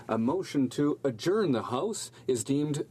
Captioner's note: speaking French